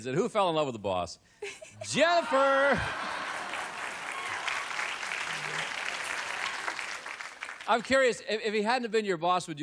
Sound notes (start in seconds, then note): 2.8 applause